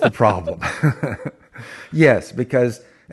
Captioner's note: laughs